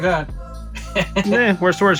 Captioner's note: laughs